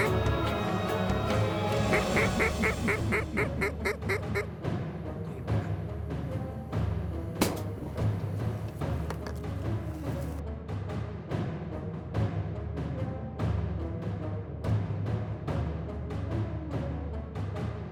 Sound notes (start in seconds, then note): 1.3 duck calls; 7.4 gun shot